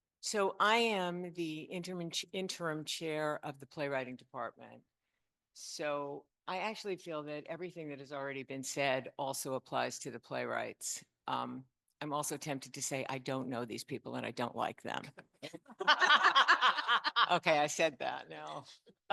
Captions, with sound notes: So I am the interim chair of the playwriting department. So I actually feel that everything that has already been said also applies to the playwrights. I'm also tempted to say I don't know these people and I don't like them. (panel laughs) Okay, I said that now.